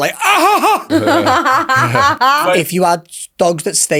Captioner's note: laughs